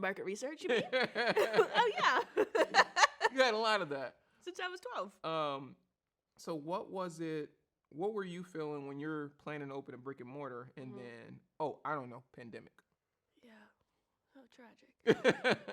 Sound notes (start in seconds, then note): 0.7 both laugh